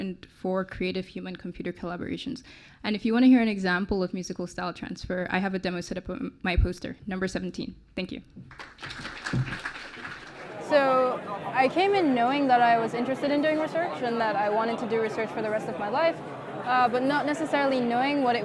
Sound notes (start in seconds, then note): 8.4 clapping